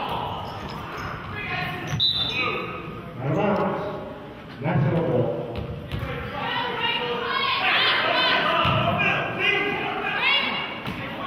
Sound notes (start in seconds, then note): 1.9 whistle blows; 4.3 murmurs